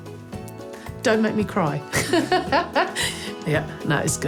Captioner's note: laughs